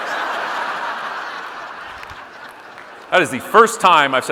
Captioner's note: audience laughing